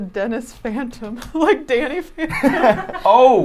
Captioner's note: laughing